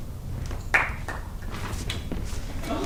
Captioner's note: one idiot claps